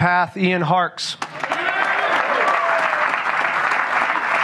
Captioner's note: applause